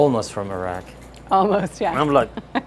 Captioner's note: laughs